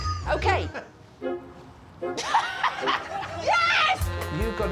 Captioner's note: laughs